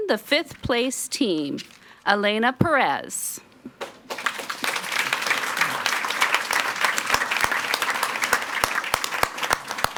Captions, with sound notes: the fifth place team, Elaina Perez. (audience applauds)